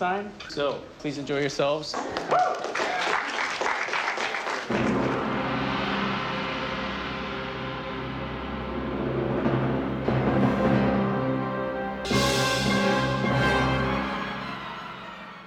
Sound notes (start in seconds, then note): 2.0 cheers and applause; 4.6 dramatic music